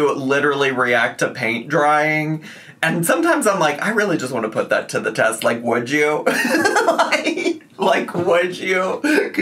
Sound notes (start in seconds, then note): 6.3 laughing